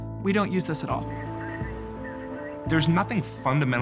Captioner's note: radio running